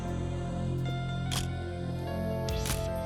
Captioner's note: camera shutter click